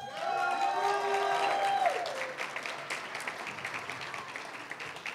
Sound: applause, cheering; applause

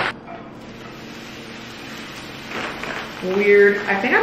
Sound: cheese sizzling

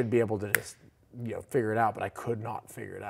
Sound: snapping fingers

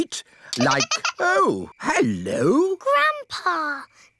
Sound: giggling

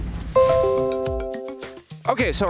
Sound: computer dings

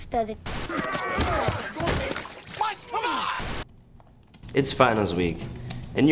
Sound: grunts loudly

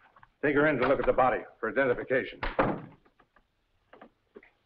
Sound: door bangs shut

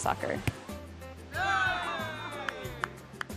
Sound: cheering

